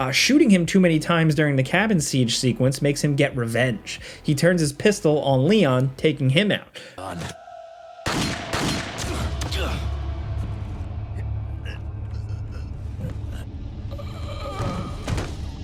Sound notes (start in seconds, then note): 8.0 gun blasting; 9.0 Leon grunting; 10.4 Leon choking; 10.4 tense uneasy music